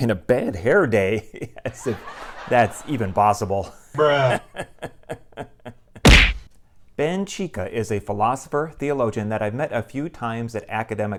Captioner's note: laughter